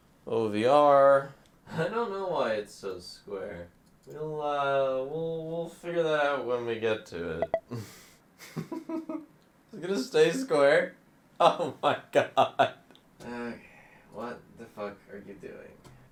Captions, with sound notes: ..OVR. I don't know why it's so square. We'll uh, we'll- We'll figure that out when we get to it. (Laughs) Is it going to stay square?! Oh my god. Okay, what the fuck are you doing?